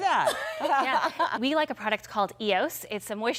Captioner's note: laughter